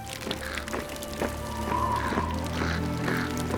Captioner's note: somber pan flute music; wind howling; dramatic music